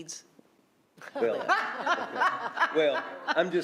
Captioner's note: others laughing